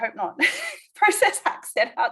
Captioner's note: laughs